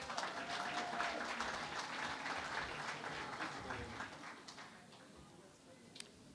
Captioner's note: applause